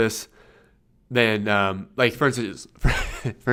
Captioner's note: laughs